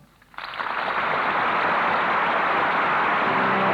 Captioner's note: applause